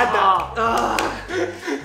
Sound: grunts

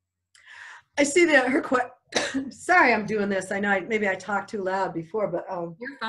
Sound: coughs

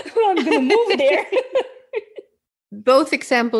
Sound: both chuckling

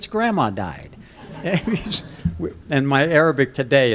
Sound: laughter

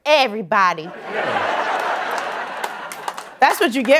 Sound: laughter

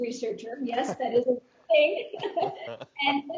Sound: laughing

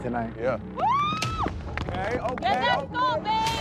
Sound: cheering

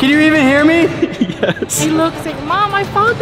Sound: chuckling

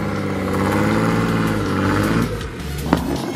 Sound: engine roaring; upbeat electronic music

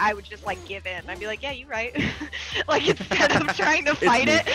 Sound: laugh

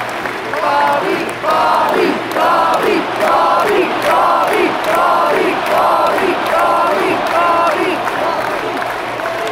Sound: crowd chants "Bobby, Bobby, Bobby"

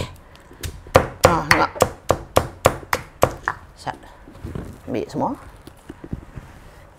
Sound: pounding sound

